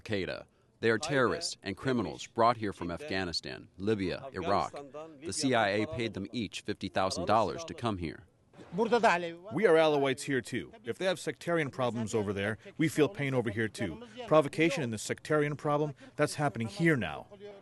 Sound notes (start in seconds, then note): 9.1 through translator